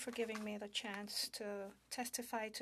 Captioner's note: speaking in French